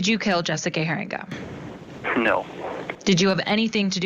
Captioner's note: laughing